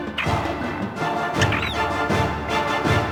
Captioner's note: dramatic music; creatures yelp; music intensifies